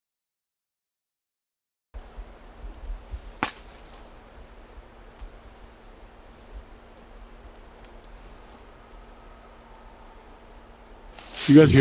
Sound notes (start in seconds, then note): 3.6 tree limb breaking; 9.0 screaming